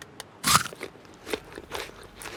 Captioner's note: crunches